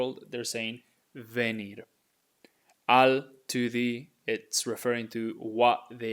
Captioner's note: speaking in Spanish